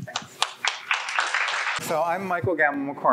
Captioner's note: crowd claps